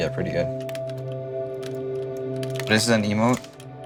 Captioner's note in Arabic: نقر على لوحة المفاتيح